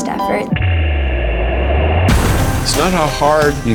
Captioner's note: whooshing